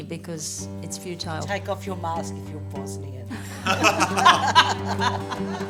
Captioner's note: laughter